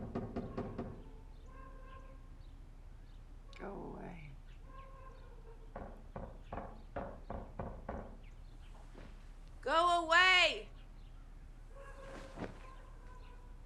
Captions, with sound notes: (knuckles knocking) Go away. (knuckles knocking) Go away!